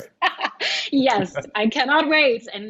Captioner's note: laughing